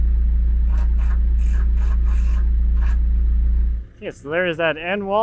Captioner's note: drill buzzing